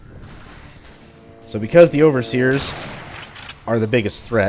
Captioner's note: railgun shot